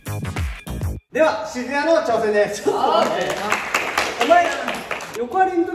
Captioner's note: applause